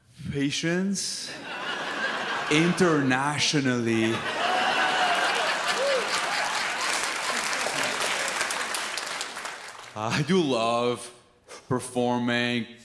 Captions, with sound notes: patience internationally. (audience laughs) I do love performing,